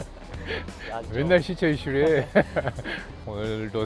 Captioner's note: laughs